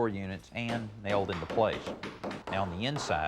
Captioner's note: carpenter hammring